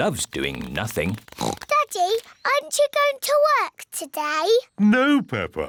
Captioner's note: oinks